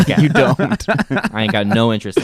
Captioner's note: laughing